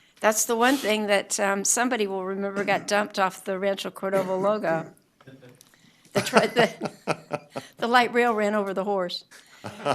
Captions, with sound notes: >> SURE. I LOVE THE MARCH OF TIME THING. I LOVE THE MARCH OF TIME THING. AND IT EVEN HAS A PONY EXPRESS AND IT EVEN HAS A PONY EXPRESS HORSE. HORSE. [ LAUGHTER ] [ LAUGHTER ] >> THAT WOULD BE ON OUR LIST. >> THAT WOULD BE ON OUR LIST. >> THAT WOULD BE ON OUR LIST. >> THAT WOULD BE ON OUR LIST. THAT IS THE ONE THING THAT